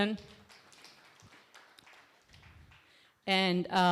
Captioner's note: applause